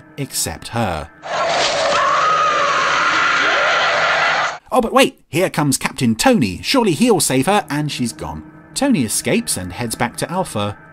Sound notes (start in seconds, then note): 1.2 creature roaring; 1.4 woman screaming